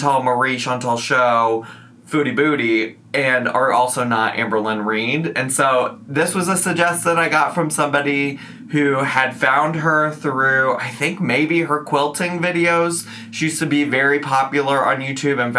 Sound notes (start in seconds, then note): none